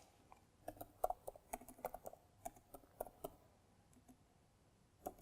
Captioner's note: keyboard clicking